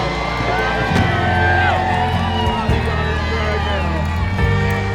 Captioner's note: crowd cheers